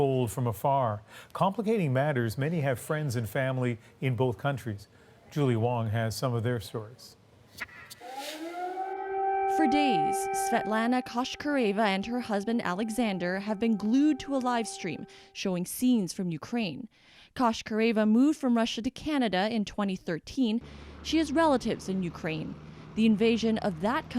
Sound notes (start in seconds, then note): 9.6 sirens